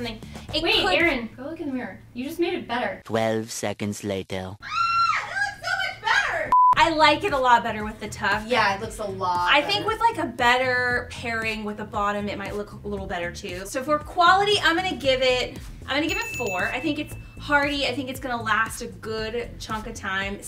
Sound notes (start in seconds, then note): 4.6 screams